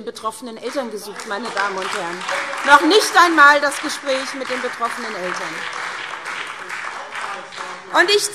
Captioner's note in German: Beifall SPD und DIE LINKE